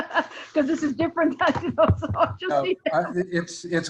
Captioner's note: laughing